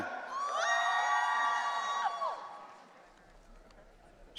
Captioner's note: audience cheering